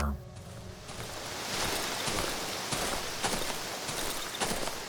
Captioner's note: wind whistling